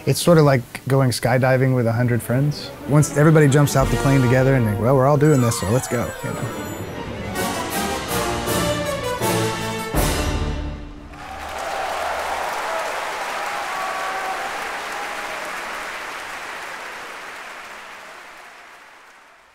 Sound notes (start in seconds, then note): 11.0 applause